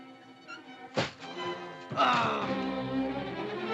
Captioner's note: dramatic music; door closes; Mowgli growls; dramatic music